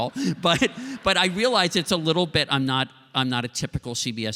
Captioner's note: laughter